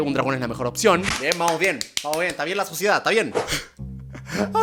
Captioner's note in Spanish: aplaudiendo; ríe